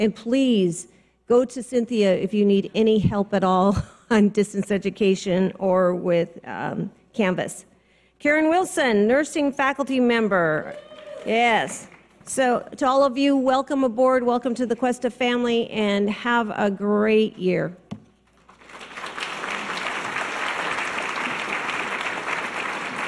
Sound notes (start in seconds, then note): 10.8 audience cheers; 18.4 audience applause